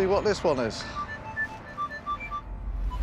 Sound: beeping

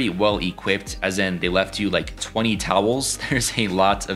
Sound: laughing

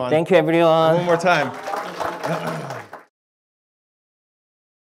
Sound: audience clapping

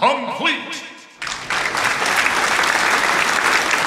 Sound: clapping

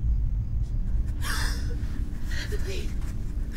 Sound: Grace gasping

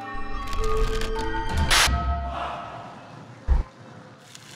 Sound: frightening sounds

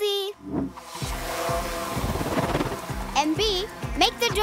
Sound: drone buzzing

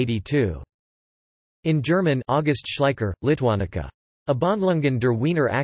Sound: in German

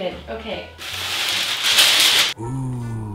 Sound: paper rustling

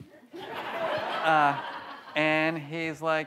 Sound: audience laughs

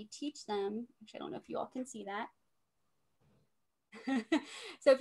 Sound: laughs

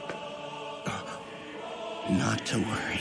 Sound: gasping

